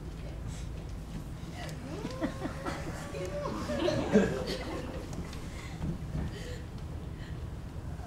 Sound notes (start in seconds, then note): 1.9 audience laughs